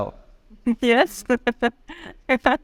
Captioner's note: laughing